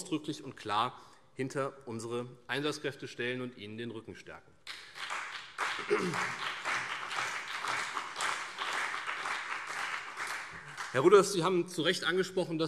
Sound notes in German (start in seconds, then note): 4.6 Beifall CDU und BÜNDNIS 90/DIE GRÜNEN